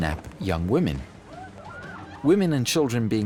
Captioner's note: women screaming